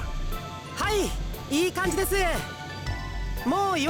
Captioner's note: shout